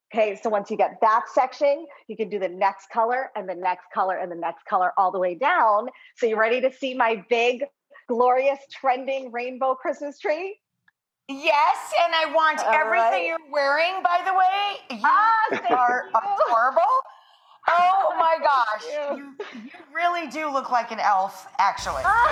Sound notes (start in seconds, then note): 15.1 laughs